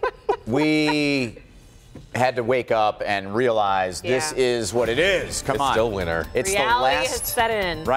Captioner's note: laughter